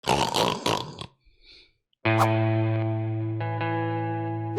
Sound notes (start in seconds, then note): 0.0 loud snort; 2.1 guitar notes